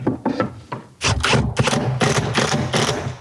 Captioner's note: electric drill sound